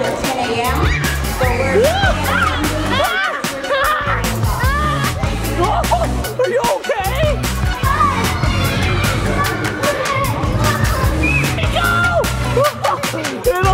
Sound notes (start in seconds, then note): 2.7 kids playing